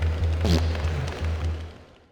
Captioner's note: fart